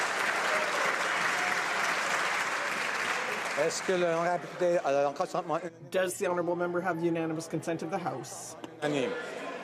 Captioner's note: some Applause